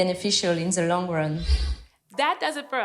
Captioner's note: screen whooshing